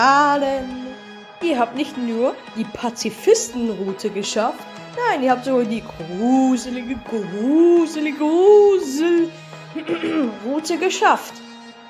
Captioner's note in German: räuspert sich